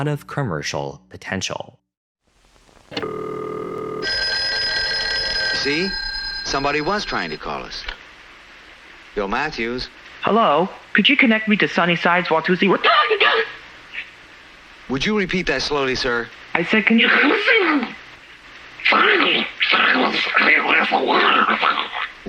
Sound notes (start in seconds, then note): 5.6 phone rings